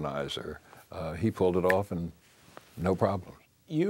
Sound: snaps fingers

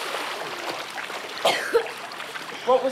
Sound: coughs

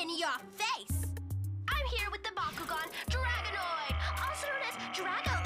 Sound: Drago shouting

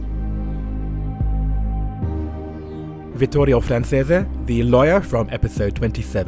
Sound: voiceover

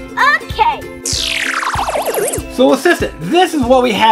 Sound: lasers whooshing

